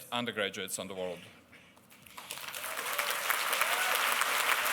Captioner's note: applause